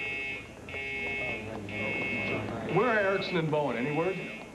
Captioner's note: alarm buzzing